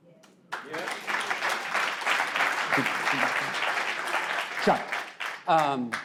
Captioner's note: audience claps